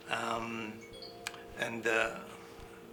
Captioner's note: computerized dinging